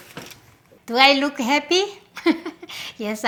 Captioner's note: laughs